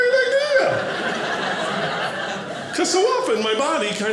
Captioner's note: audience laughing